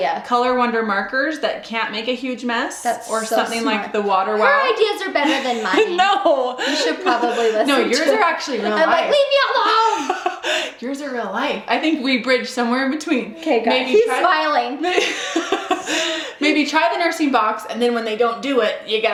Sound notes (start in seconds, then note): 14.8 laughing